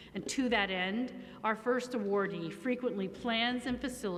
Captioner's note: none